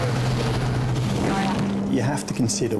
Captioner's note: engine revs